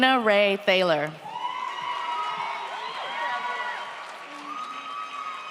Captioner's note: audience cheers